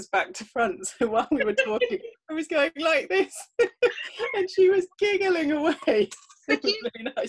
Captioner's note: laughter